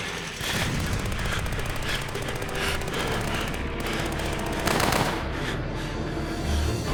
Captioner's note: bombs blasting; guns popping